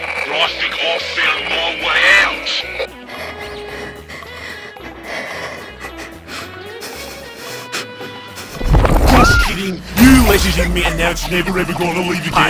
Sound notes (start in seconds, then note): 2.3 panicked breathing; 9.0 screams; 10.3 coughing and choking